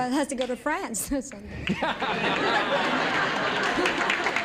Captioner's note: laughter